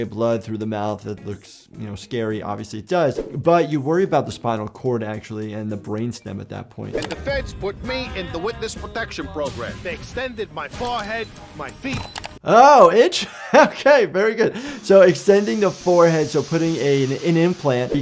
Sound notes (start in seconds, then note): 13.1 laughs